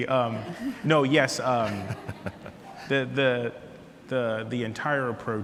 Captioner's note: laughs